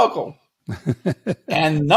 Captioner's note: laughing